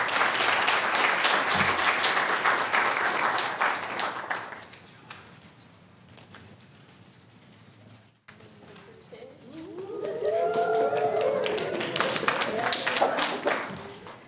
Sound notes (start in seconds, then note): 7.9 applause